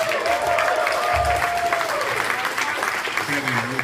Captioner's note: cheers & applause